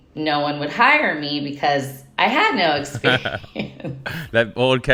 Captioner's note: chuckling